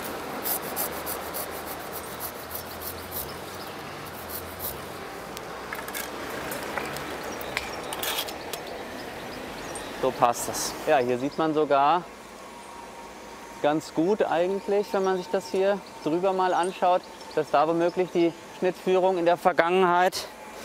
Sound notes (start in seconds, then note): 2.7 birds chirping